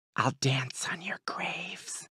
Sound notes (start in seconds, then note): 0.0 whispers